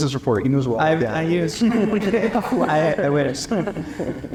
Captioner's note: laugh